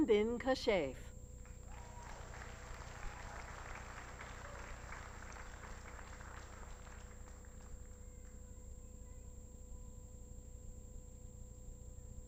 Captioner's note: applause